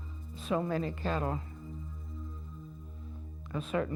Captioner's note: none